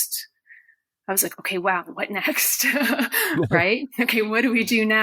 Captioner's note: laughs